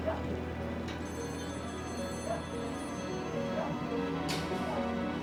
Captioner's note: phone ringing